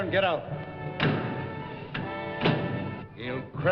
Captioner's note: car door shuts